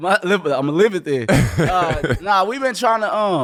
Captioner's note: laughing